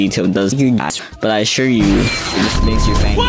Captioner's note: missile going off